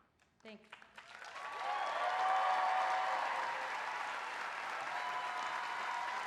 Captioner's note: applause